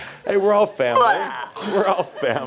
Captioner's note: chuckles